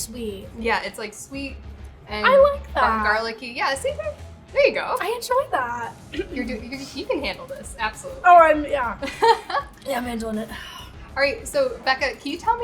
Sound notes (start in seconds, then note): 6.0 clears throat; 11.8 laughing